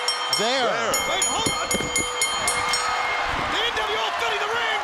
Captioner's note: bell ringing